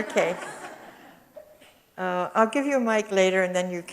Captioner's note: audience chuckles